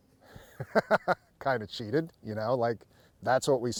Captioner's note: laughter